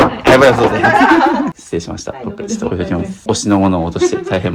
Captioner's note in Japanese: 笑い